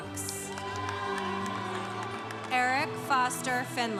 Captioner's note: congregation cheering